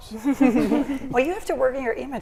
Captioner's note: people chuckling